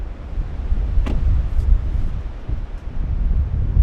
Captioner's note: car door slams; wind humming